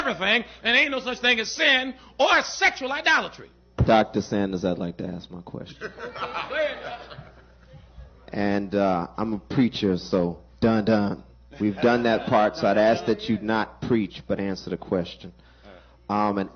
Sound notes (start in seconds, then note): 5.7 laughter